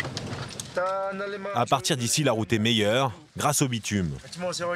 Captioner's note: dzongkha spoken audio